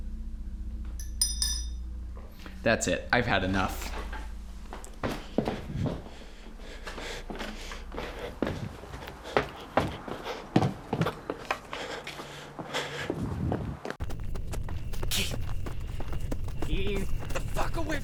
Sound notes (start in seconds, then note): 7.1 heavy breathing